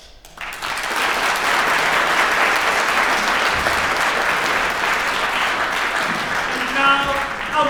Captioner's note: applause